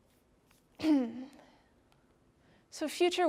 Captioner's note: clearing throat